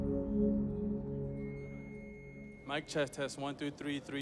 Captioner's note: feedback screeches